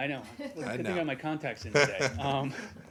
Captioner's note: laughter